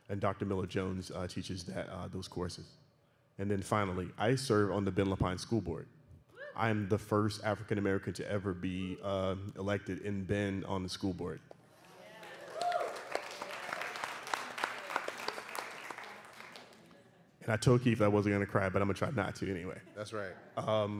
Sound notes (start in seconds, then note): 11.8 cheering and applause